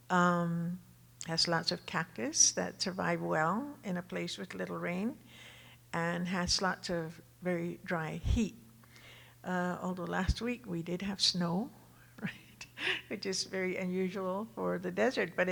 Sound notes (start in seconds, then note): 12.2 chuckles